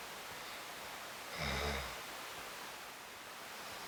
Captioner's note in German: Leises Schnarchen